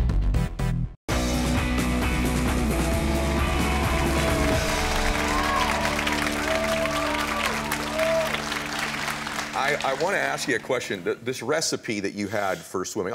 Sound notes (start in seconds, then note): 1.0 upbeat music; 3.2 audience cheering